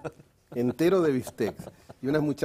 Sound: ríe

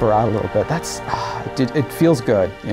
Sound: sigh

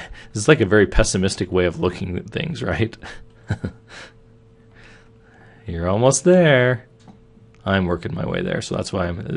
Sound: laughing

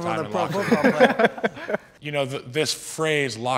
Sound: all laughing

